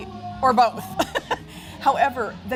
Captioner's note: laughing